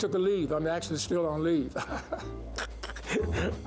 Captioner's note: laughing